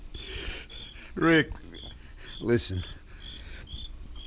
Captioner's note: voice breaking